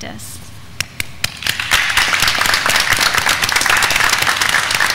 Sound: graduands clapping

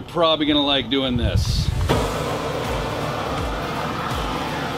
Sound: machine operating

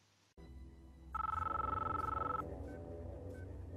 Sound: Audio from The Matrix, phone ringing

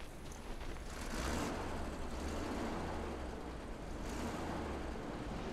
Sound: truck engine rumbles

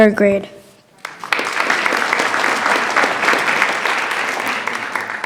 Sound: attendees clapping

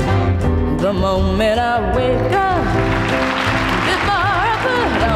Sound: audience applauds

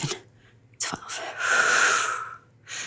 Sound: exhale

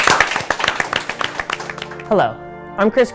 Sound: applause

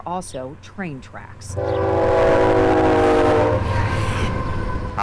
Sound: train whistles loudly

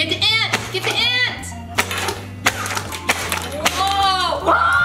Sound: blowing

